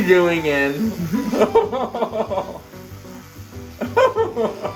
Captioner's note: laughing; laughing